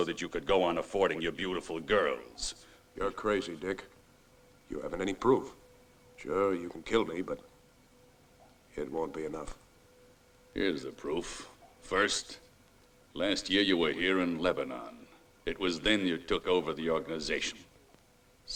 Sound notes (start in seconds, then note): none